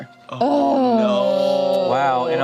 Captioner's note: groans